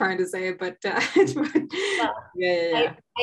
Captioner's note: laughing